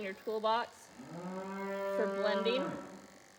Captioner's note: mooing noises